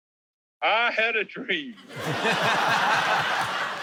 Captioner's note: laughter